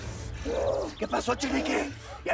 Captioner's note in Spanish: Quejidos